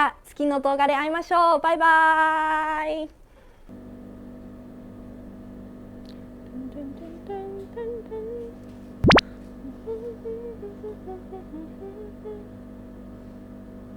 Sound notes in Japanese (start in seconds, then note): 3.4 〜鼻歌